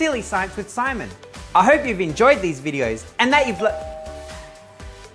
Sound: ding dong

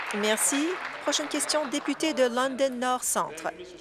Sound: applause

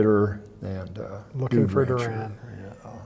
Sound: murmurs

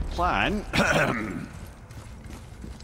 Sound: clears throat

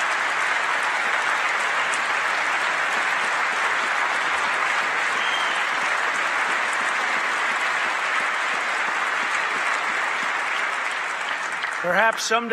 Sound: applause

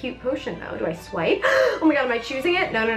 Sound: gasps

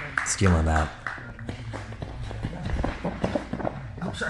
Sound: spectator claps; fighters chattering

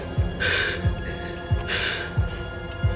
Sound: gasping

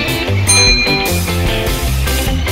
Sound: ding

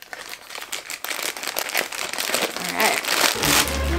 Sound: packaging crunching; dramatic orchestral music

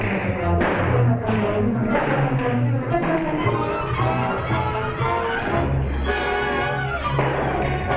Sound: gunshots - tense music

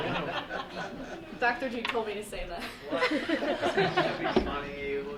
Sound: group laughing; laughs

